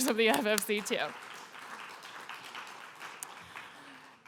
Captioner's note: applause